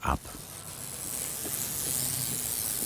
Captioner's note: whirring sounds